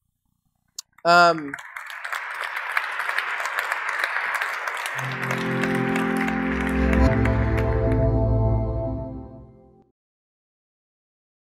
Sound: applause

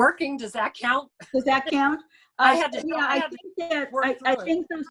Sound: speaking faintly

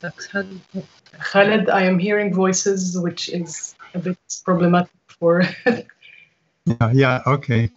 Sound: laughs

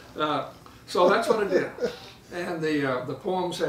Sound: laughing

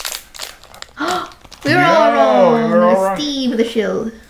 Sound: gasp

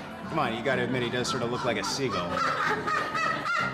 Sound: squawking

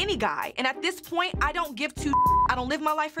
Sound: beep

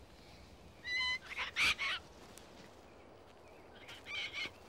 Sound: Snowy squawks

